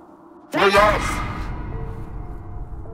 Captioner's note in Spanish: voz malvada